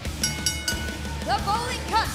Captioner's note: bell ringing